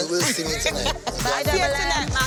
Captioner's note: laughing